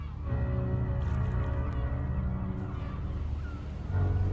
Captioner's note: gulls squawking